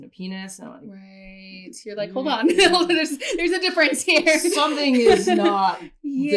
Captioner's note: laughter